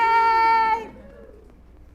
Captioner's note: small cheers